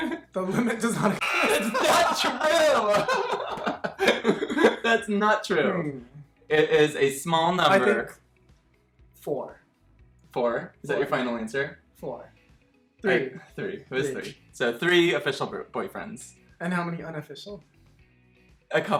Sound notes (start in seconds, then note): 0.0 both laughing